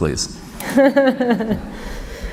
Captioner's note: laughter